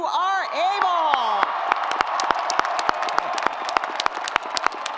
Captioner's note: audience applauds